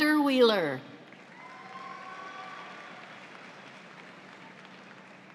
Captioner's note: audience applauds